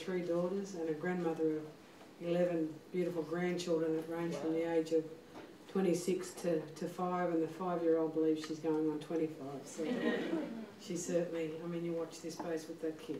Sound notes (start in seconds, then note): 9.8 laughter